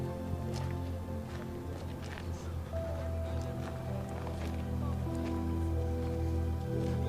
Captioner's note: gentle music continues; tourists chattering